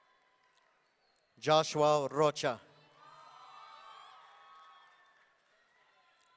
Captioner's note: audience cheering